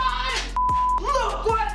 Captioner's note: beeping